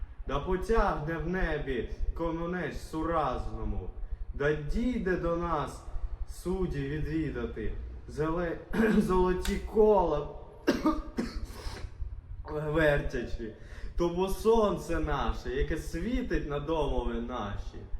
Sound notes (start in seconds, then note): 10.6 coughs